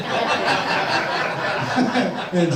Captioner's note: audience laughs